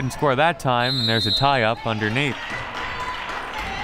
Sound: whistle

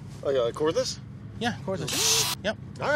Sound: drilling

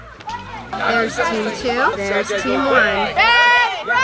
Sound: chatter; team yelling in Unison

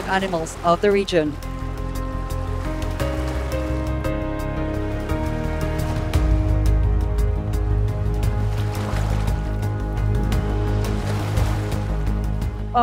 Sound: waves

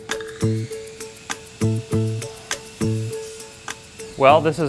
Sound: drill whirring

